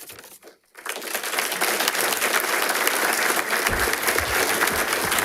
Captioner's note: attendees applauding